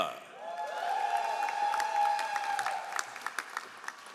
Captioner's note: all applauding